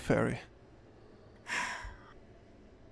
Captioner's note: loud sigh